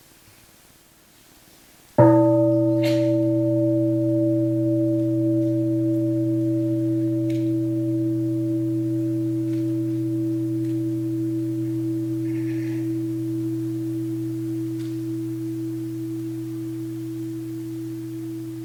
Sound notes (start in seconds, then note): 2.4 bell rings